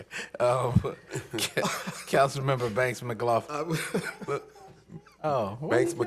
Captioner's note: laughter